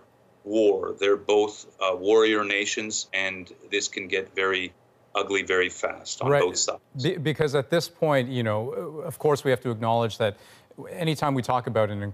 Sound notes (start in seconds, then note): 5.4 speaking French